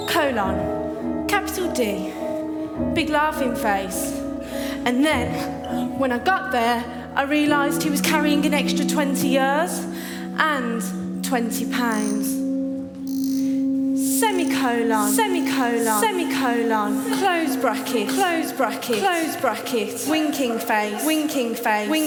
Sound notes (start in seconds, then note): 13.3 voices echo